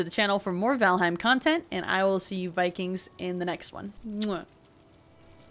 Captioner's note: kiss